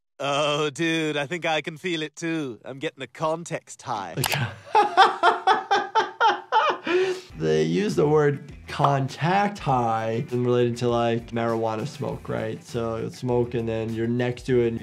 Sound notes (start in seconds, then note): 4.2 Jordan laughs